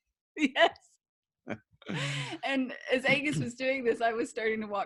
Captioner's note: laughs